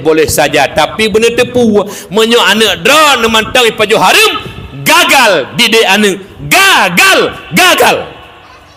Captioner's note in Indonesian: berteriak